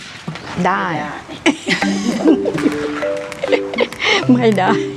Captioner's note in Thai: เสียงหัวเราะ